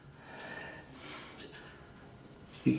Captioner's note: Helga breathing